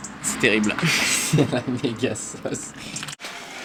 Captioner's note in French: rires